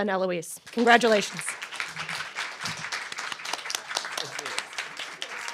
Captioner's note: applause